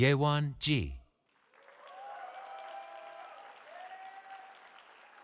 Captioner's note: cheering